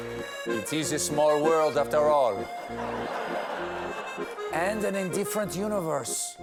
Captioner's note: terrible french accent